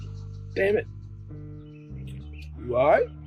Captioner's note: whines